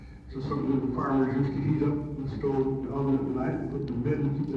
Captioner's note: audio distorts